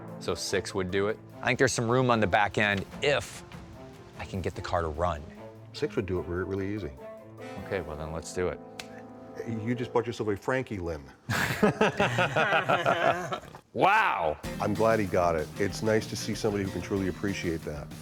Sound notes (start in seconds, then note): 11.3 laughing